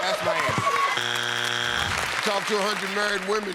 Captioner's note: buzzer